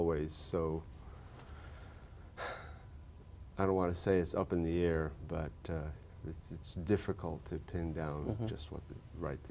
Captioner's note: sighs